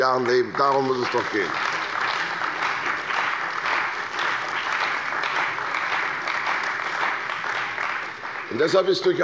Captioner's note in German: Beifall bei der CDU und dem BÜNDNIS 90/DIE GRÜNEN